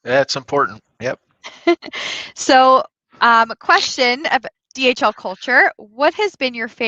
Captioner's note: laughter